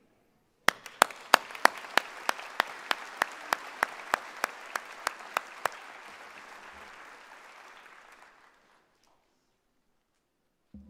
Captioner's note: applause